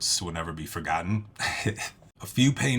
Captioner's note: laugh